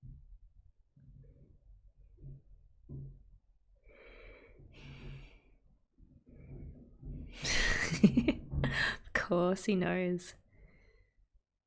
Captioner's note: laughs